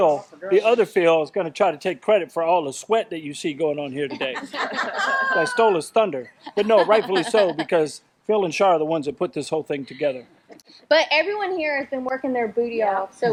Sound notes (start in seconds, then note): 4.1 crowd laughs